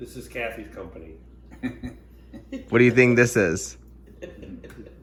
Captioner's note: laughing